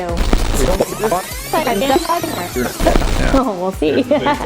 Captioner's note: reversed and sped up dialogue; laughing